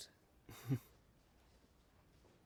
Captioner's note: chuckles